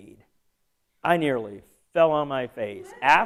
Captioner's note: laughter